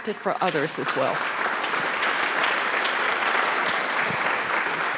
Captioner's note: audience applauding